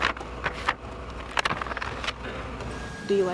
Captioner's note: machine beeps